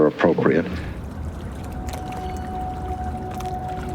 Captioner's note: siren wailing in distance